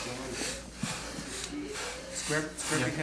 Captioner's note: heavy breathing